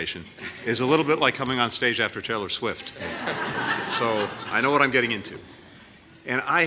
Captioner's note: laughter